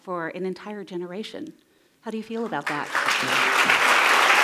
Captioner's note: cheers and applause